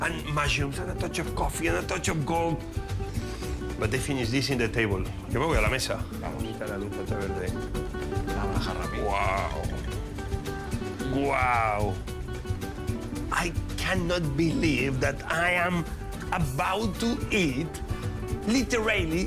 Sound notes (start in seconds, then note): 3.0 sniffs; 5.2 both speaking Spanish